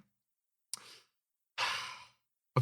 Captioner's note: sigh